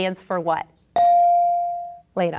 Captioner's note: bell dinging